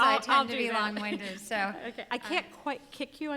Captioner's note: murmurs